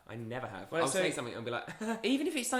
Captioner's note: giggles